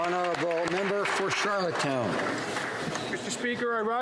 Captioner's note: applause